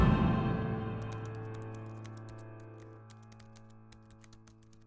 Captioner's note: typewriter clicking